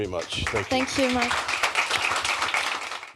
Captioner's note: applause